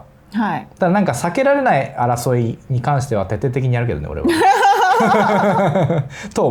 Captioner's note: laughs